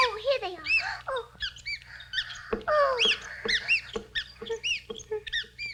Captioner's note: mice squeak; mice squeaking